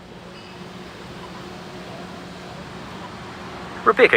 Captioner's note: vehicle engines whirring